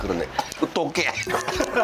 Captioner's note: coughs